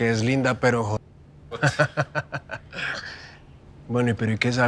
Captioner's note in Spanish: Risas